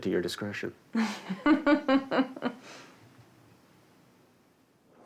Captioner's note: laughs